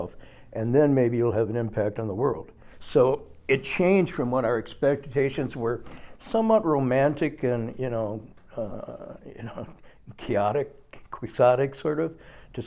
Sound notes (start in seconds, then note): none